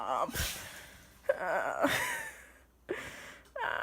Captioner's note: whining